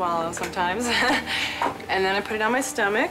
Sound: laughs

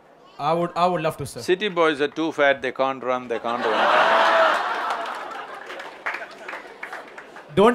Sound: laughter

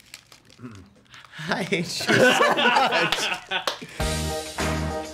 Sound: laughter

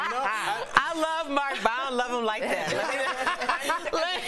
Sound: laughter

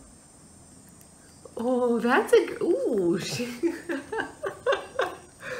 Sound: laughing

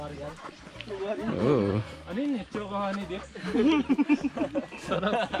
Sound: laughter

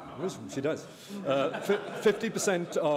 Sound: laughter

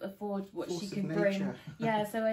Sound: laughs

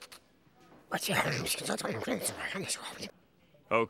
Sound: whispering

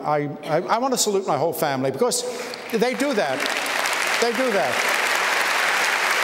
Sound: applause

